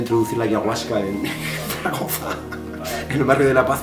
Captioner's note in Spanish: Risas